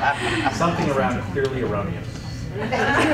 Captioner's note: chuckles